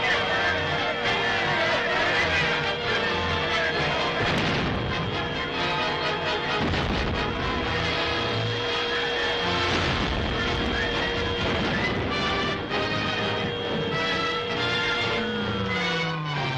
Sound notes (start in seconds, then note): 0.7 soldiers shouting; 7.7 bombs bursting; 7.7 plane buzzing